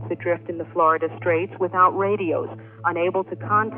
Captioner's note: archival news audio